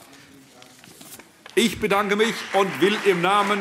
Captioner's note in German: Allgemeiner Beifall - nimmt Glückwünsche entgegen